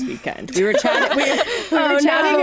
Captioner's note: laughter